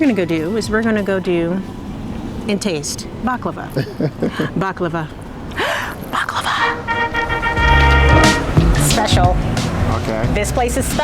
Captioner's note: gasping